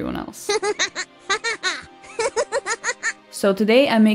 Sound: evil laughter

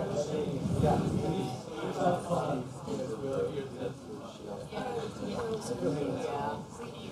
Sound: chatter

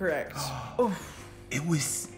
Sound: gasps

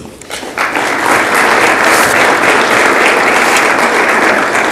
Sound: audience applauds

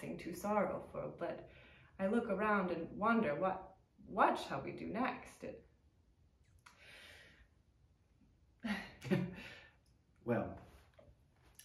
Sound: sighs

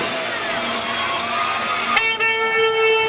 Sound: more car hornage

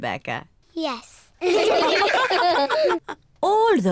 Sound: all laugh

